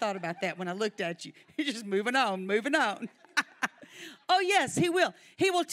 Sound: laughs

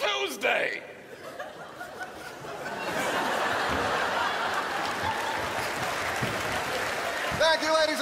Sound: crowd laughs

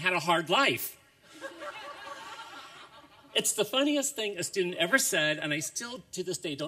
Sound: laughter

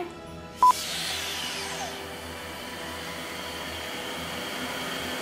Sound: saw whirring

